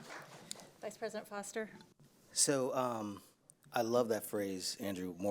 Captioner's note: applause